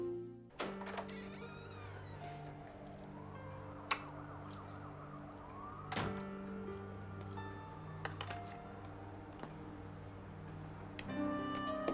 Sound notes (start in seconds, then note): 0.5 door creaking; 2.2 slow paced music